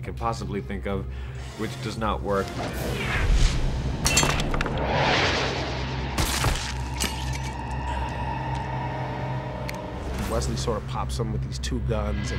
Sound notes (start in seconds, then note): 4.2 gunshots